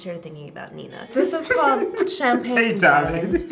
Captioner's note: laughing